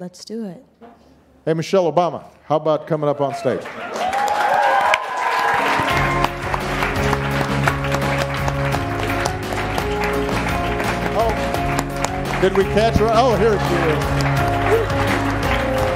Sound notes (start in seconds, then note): 3.9 audience cheering and applauding; 6.2 upbeat instrumental music